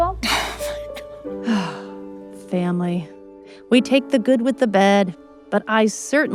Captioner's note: sighs